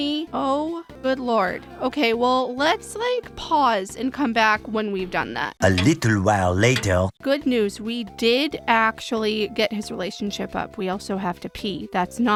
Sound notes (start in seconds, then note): 4.8 french accented male narrator voice